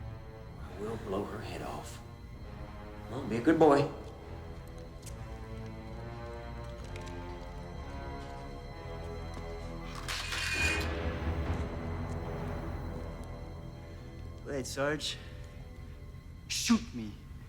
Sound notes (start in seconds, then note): 10.5 gun clattering